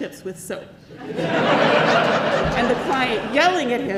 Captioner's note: congregation laughs